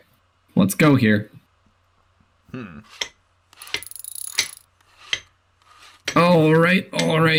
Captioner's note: hammering noises